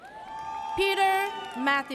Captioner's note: audience cheers